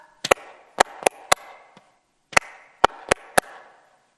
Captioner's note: clapping to the rhythm